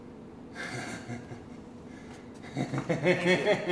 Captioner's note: man laughing